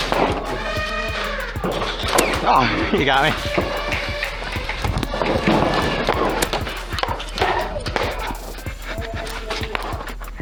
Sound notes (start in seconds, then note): 2.4 pained yelp; 4.3 motors revving, thunking of darts, and footsteps